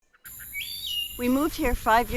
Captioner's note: bird chirping